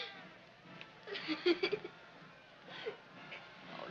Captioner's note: sobbing